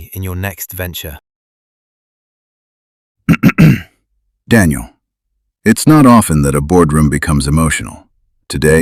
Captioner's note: clears throat